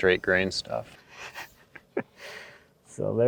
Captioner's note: laughs